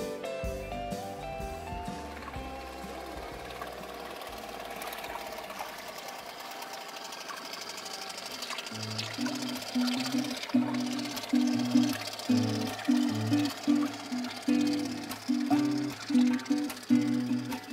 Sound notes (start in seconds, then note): 10.5 boat putters; 10.5 calm music